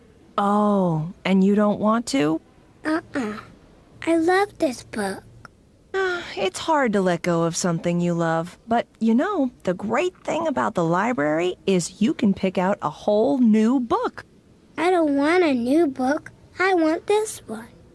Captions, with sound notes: Oh. And you don't want to? Uh-uh. I love this book. [sighs] It's hard to let go of something you love. But you know, the great thing about the library is you can pick out a whole, new book. I don't want a new book. I want this one.